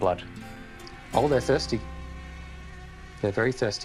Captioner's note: mosquitoes buzz